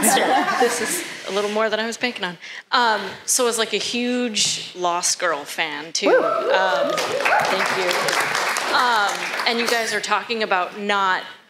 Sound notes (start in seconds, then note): 6.1 cheers and applause